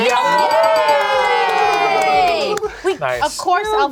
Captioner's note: group cheers